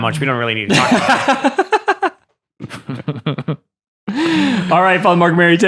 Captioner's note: laughing